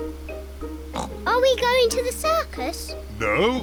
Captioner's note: oinks